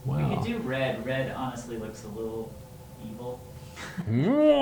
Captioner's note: speaker laughing; evil laughing